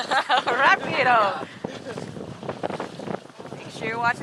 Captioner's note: laughs